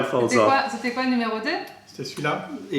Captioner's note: french